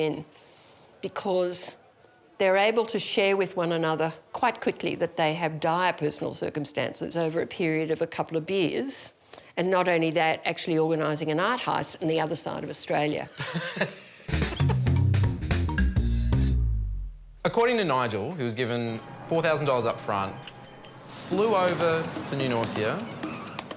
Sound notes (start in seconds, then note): 13.3 laughs